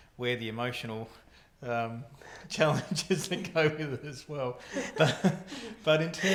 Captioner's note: laughing